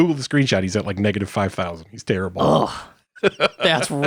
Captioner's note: laughs